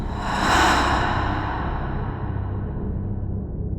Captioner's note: ghostly breath